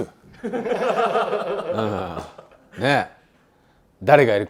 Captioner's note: laughs